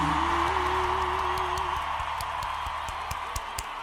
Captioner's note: audience cheering; coach clapping